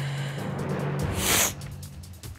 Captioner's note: sniffles